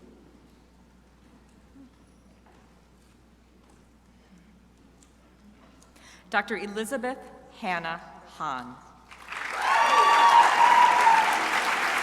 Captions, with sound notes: Dr. Elizabeth Hannah Hahn. (crowd applauding)